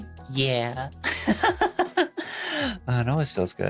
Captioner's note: laughter